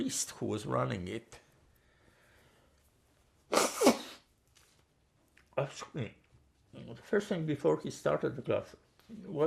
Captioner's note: wiping nose